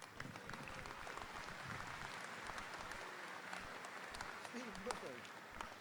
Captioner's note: audience applauding